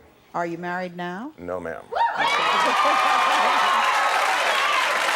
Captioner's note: cheering